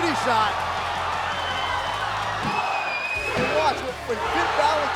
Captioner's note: crowd cheering